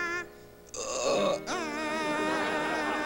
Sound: belches

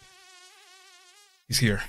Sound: fly buzzing

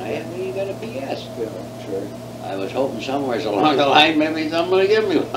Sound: laughs

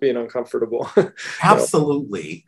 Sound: laughs

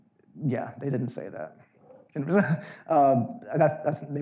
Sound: chuckles

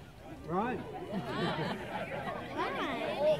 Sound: laughter

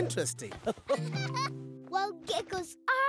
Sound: laughing

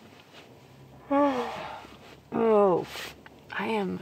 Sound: yawning

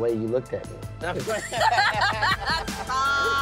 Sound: laughs

